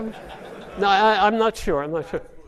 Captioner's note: audience laughing